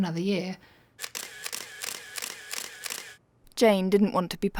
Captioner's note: shutter clicking